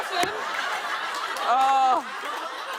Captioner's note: laughter